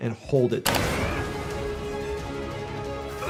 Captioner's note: grunting